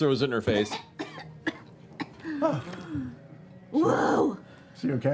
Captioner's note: coughing